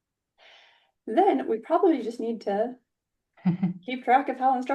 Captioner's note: laughs